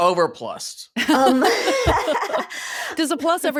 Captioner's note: laughing